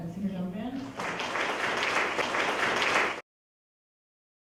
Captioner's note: applause